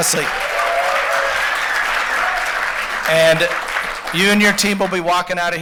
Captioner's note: applause